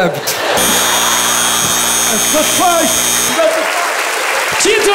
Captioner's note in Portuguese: campainha; aplausos